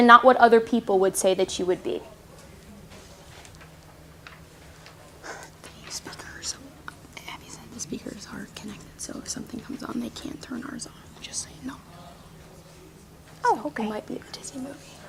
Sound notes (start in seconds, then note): 1.7 whispering